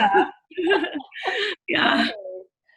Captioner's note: both laughs